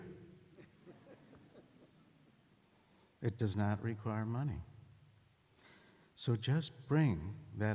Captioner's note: laughter